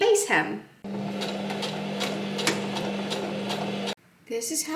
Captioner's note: sewing machine surges